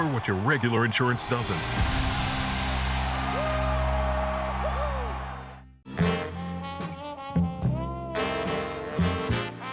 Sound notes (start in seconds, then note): 3.0 cheering; 5.8 seductive jazz music